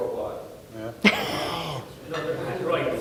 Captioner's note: laughing